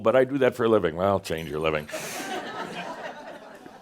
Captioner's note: laughter